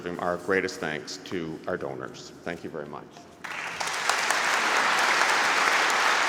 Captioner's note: applause